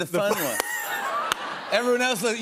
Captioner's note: laughter